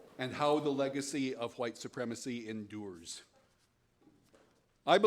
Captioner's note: none